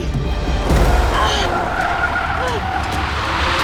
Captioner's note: gasping